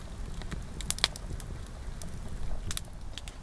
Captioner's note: fire crackling